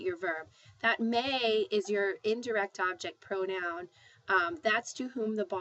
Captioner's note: spanish